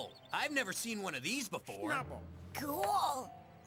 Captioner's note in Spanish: enojada